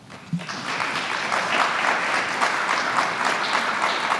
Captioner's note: applause